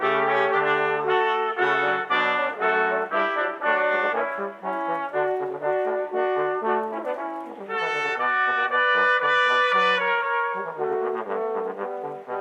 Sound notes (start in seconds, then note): none